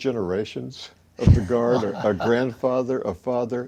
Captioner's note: chuckling